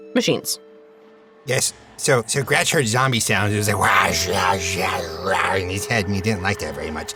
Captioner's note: makes zombie sounds